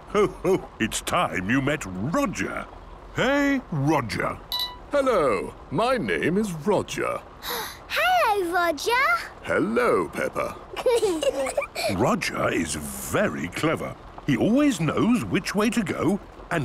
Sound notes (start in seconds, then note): 7.4 gasps; 10.7 children giggling